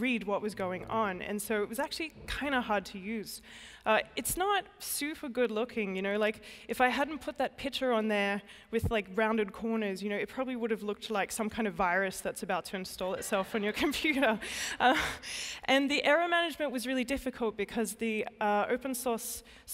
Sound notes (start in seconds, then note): 15.0 laughter